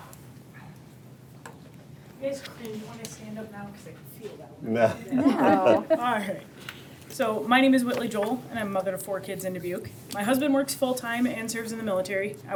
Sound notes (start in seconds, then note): 5.0 board members laughing